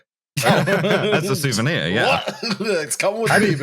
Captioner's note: laughter